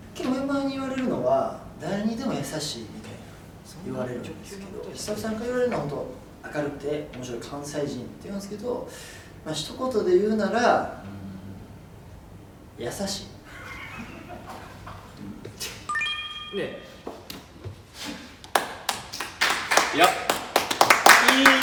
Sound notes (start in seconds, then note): 13.5 all laugh; 18.5 clapping